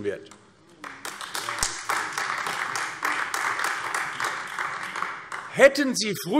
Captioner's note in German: Beifall AfD